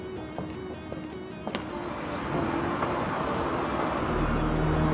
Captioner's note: traffic humming